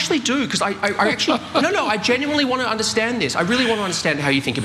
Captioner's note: laugh